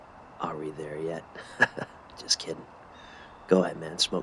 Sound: chuckles

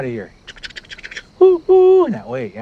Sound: chugging

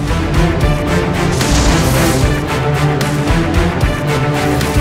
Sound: magical zap

